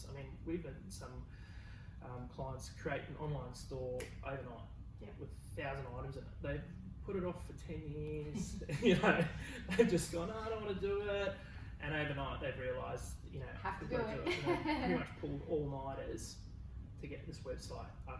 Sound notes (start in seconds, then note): 4.0 snaps; 8.3 both laughing; 14.1 laughs